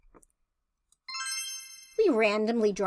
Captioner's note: chime sound